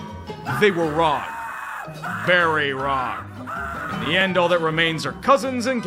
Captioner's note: cries of agony from Falcons fans